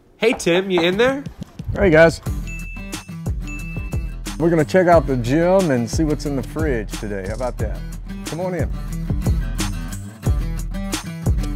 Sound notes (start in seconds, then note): 2.4 bell dings; 3.0 upbeat guitar music